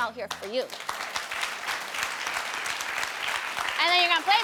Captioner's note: audience clapping